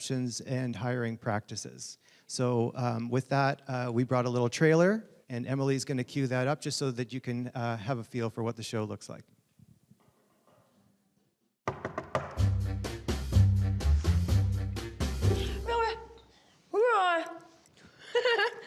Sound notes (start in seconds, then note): 11.6 knocking